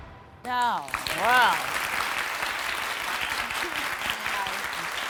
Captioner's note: audience applauding